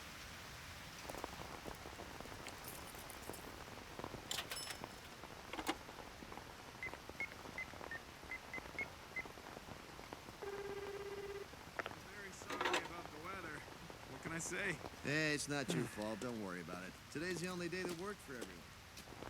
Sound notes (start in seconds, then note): 4.0 coin clinks; 10.4 line ringing